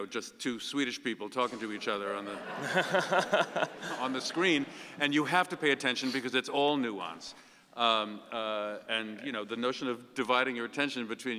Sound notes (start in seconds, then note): 2.0 audience laughing